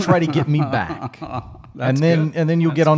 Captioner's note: laughing